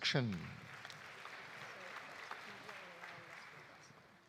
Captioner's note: audience applauding